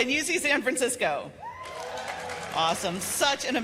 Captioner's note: cheers and applause